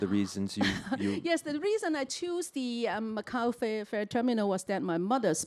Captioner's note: chuckles